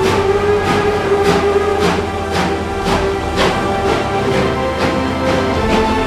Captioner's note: continued train departure sound effects